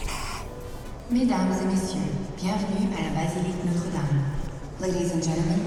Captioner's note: announcer speaking in French